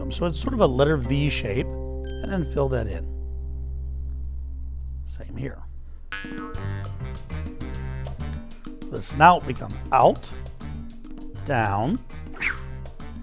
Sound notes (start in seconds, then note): 6.1 bubble boings